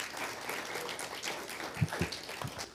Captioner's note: applause